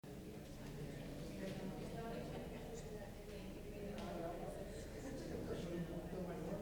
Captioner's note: chatter